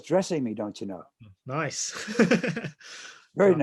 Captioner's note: laughter